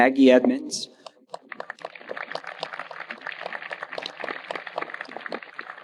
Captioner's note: audience applauding